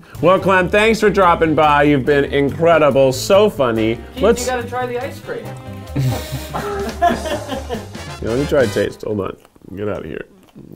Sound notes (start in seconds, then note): 5.6 laughing